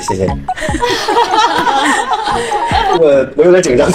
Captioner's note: laughter from everyone